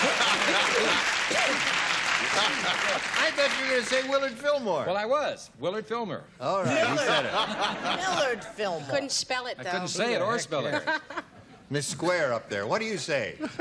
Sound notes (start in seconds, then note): 0.0 cheering